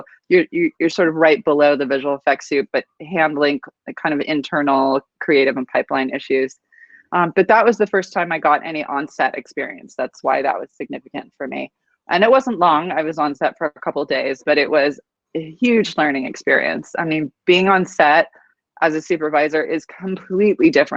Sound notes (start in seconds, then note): none